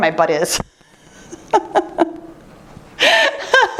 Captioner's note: laughter